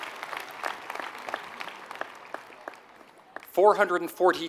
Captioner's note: applause